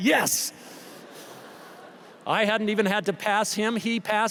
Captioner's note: laughter